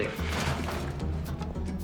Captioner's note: clattering